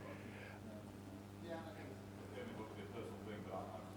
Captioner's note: man speaks softly